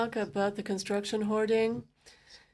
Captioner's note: speaking in French